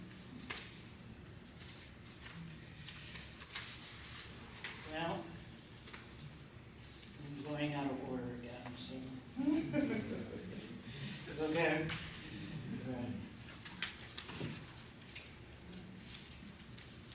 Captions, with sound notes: Well, I'm going out of order again. [LAUGHTER] She is again.